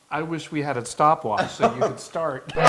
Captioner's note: laugh